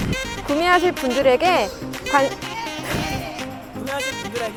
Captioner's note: laugh